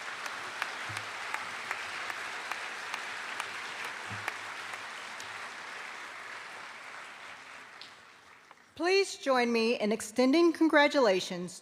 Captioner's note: applause